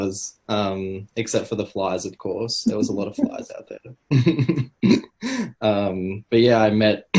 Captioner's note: laugh